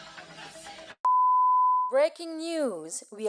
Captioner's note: long beep